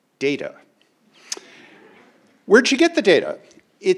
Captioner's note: crowd laughing